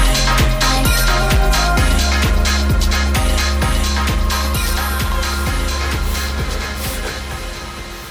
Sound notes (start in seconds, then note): 4.8 increasingly frightened breathing